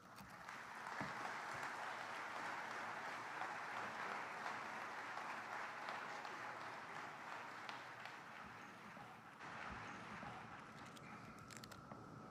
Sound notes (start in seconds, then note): 0.0 applause